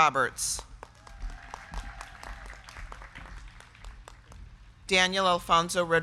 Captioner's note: crowd clapping; crowd cheering